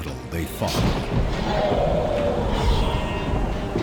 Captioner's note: screams